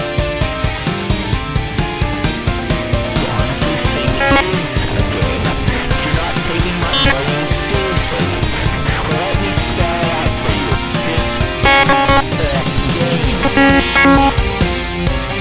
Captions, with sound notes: You honestly think this IS a game! You're not taking my warning seriously! Well let me spell it out for you. This- *Glitching* -a game!